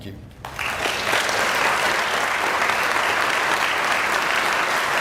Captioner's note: audience applauding